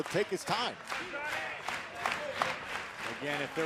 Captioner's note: crowd cheering